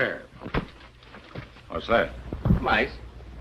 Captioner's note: knocking